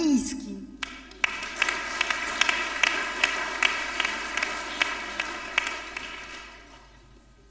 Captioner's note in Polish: oklaski